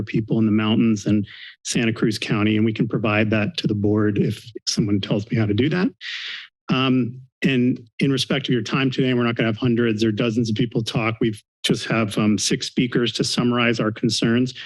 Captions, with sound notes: people in the mountains in Santa Cruz County. And we can provide that to the board if someone tells me how to do that. [inhales] Um, and in respect to your time today, we're not gonna have hundreds or dozens of people talk. We've just have, um, six speakers to summarize our concerns,